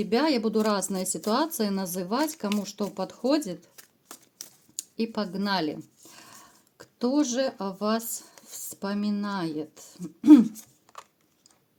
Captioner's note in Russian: откашливается